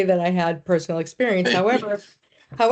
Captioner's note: chuckling